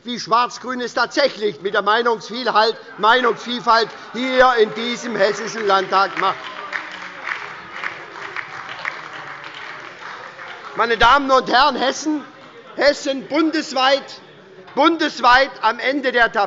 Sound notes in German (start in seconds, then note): 6.7 Beifall bei der SPD und der LINKEN – Zurufe von der CDU